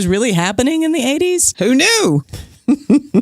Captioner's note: chuckles